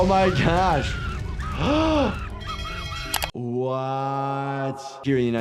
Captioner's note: gasps